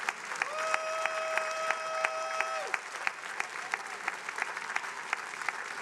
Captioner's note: attendees applauding